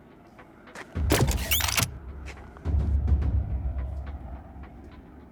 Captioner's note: gun clicking